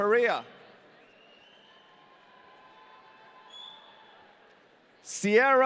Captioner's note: audience cheering